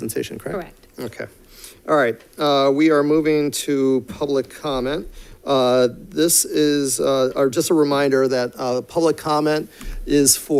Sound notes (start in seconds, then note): none